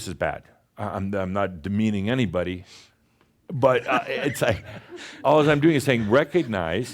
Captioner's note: chuckles